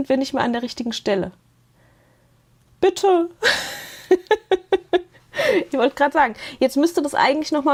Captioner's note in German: Gelächter